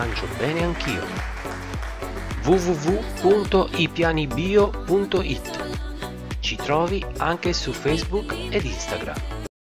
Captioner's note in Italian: Applauso